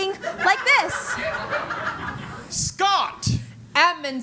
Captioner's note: laugh